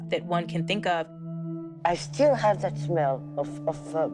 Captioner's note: soundbite of archived recording